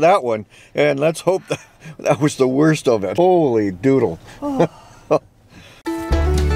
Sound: heavy sigh

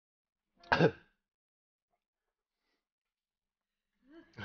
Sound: coughs

